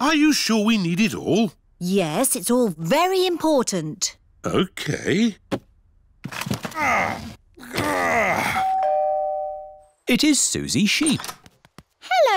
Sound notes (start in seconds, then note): 6.6 groans; 8.6 doorbell rings